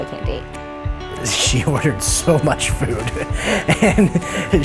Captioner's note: laughs